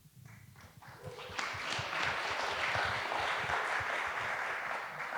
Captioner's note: audience applauding